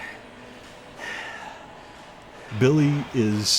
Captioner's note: breathing heavily